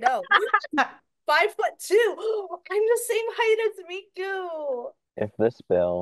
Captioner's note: laughter; gasps